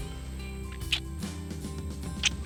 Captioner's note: kissing